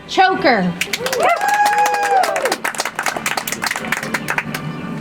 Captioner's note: audience applauds